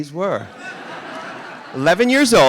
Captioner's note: audience laughing